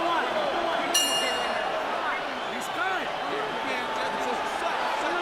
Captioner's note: bell rings